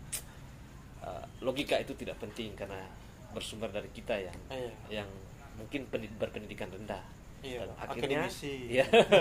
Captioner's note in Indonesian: tertawa